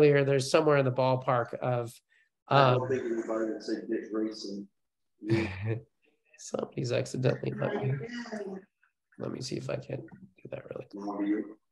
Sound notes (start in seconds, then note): 2.7 participant murmurs; 5.3 chuckles